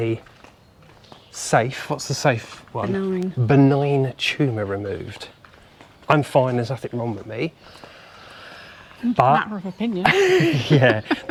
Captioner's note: laughter